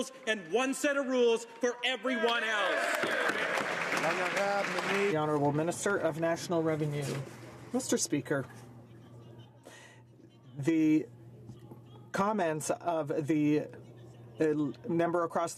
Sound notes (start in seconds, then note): 6.1 some Applause